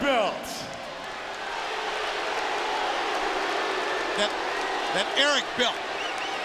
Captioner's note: crowd cheers and boos